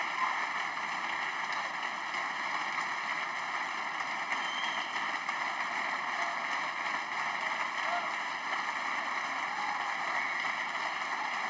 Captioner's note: applause